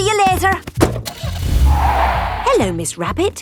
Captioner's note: car starting; tires screeching